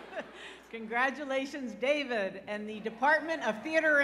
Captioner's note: laughter